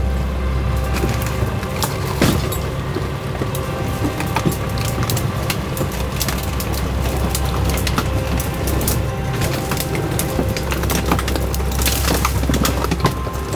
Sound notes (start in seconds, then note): 7.3 branches cracking; 7.3 leaves rustling